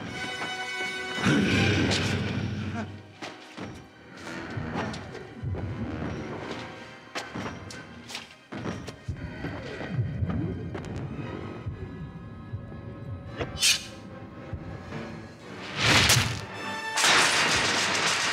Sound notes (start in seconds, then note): 0.1 dramatic music; 1.2 Donald growls; 1.2 Peter grunting; 13.6 claws clink; 15.4 dramatic music